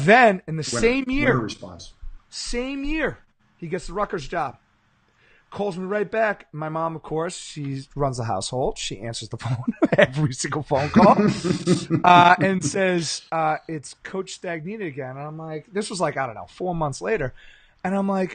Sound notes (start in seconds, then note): 10.6 laughing